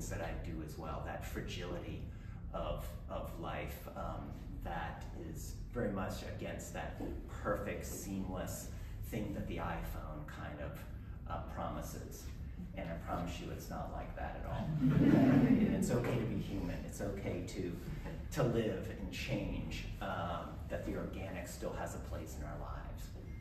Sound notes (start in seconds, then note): 14.5 laughing